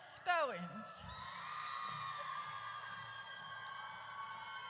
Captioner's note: audience cheers